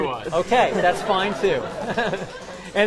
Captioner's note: laughter